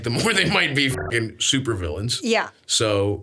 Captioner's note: beeps